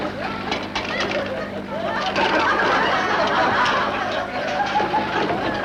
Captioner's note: audience laughter